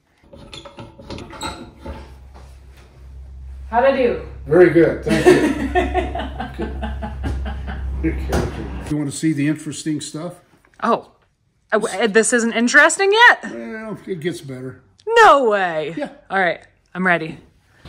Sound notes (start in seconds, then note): 5.0 laughing